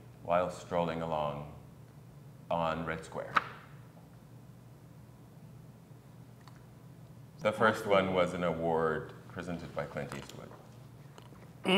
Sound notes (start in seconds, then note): 3.3 paper rustles